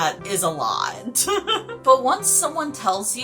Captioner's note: giggle